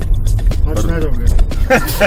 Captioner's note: voice from the back seat